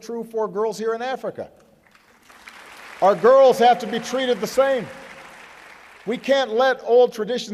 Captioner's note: applause